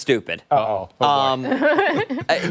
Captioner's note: laughter